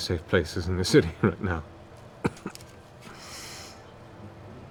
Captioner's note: coughs